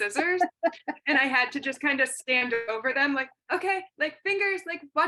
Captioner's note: laughter